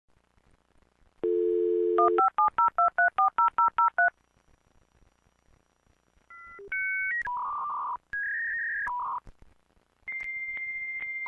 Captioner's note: internet connection sound